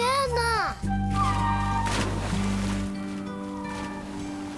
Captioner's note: speaking foreign language; whale songs